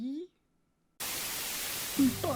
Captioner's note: VHS dissonance